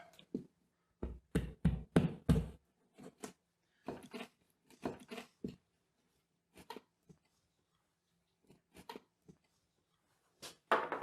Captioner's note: pounding and scraping